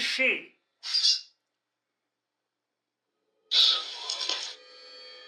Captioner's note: box whispers